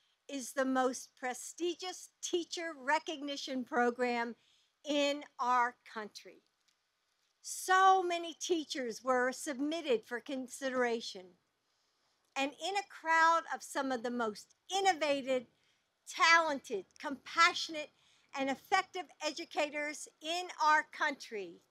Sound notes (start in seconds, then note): none